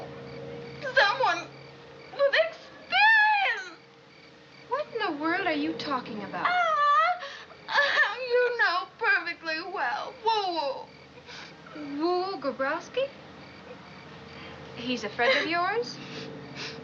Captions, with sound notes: Because I'm one with experience. What in the world are you talkin' about? [sobbing] You know perfectly well. Woo Woo. Woo Woo Grabowski? He's a friend of yours?